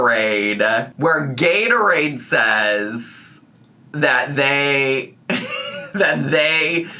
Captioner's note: laughs